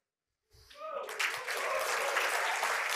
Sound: cheering and applause

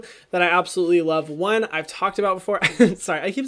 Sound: laughs

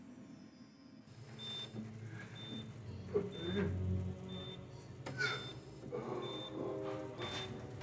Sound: monitors beeping; Donald gasping

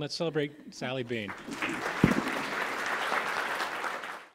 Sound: applause

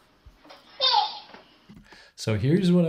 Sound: baby giggles

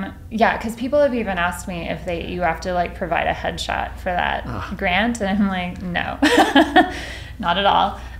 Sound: laughs

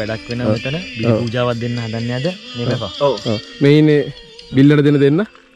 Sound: joking

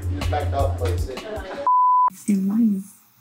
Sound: beep sound

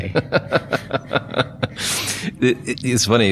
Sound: laughing

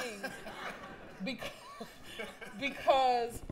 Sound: laughter

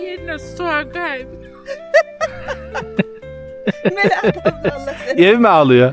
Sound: laughter

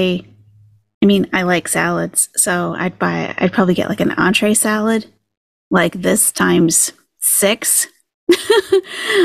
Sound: laughs

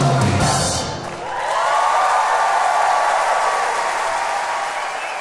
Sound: audience applauds

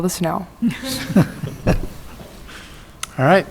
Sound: laughing

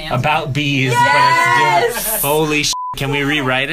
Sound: excitedly

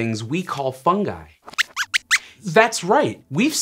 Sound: squeaks

